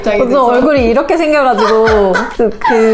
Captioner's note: laugh